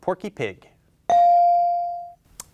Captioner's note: bell ringing